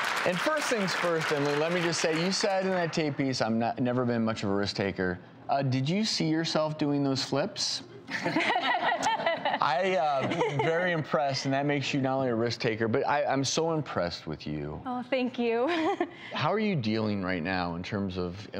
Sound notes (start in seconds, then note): 8.1 laughing; 15.6 laughing